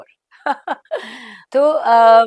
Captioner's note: laughs